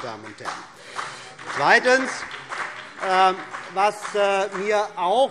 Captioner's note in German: Beifall CDU und BÜNDNIS 90/DIE GRÜNEN